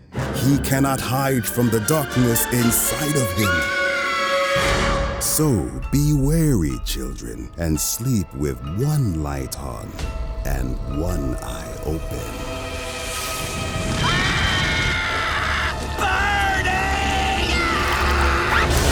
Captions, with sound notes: He cannot hide from the darkness inside of him. So, be wary children and sleep with one light on one eye open. [screaming] Burning! Ahh!